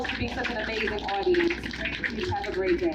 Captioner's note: applause